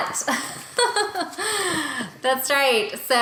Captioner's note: laughing